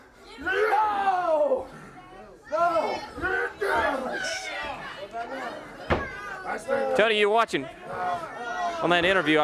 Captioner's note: crowd chatter